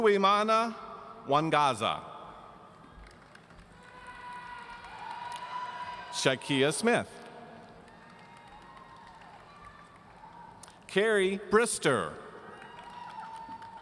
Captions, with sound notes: Uwemana Wangaza. (audience cheering) Shakeia Smith. Kerry Brister.